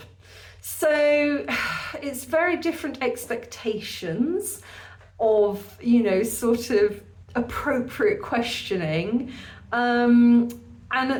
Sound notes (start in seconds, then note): 0.9 sigh